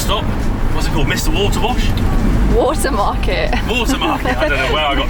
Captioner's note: laughing